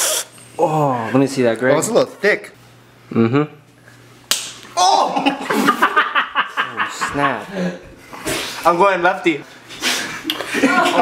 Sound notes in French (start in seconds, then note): 5.0 Rires